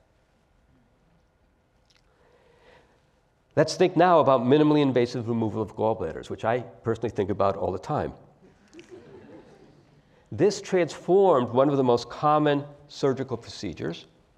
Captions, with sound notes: Let's think now about minimally invasive removal of gallbladders, which I personally think about all the time. >> [LAUGH] >> This transformed one of the most common surgical procedures.